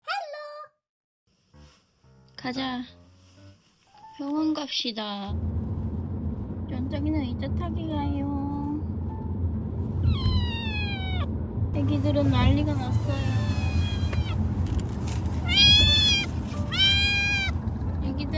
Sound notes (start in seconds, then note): 10.0 whimper